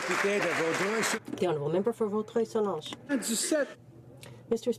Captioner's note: some Applause